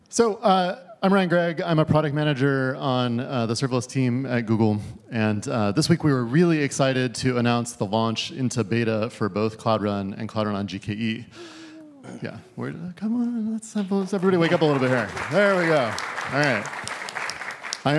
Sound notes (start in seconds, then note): 13.8 applause